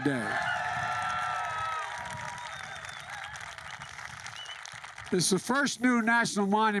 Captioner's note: applause